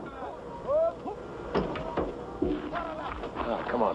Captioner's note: shouting in Arabic